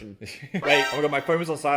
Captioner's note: chuckles; alarm chirping